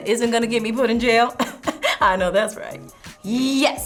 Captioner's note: chuckling